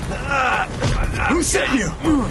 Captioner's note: джони възизкликва от болка